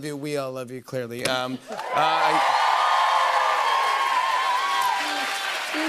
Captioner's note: cheers and applause